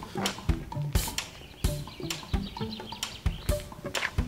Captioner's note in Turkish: Kuşlar ötüyor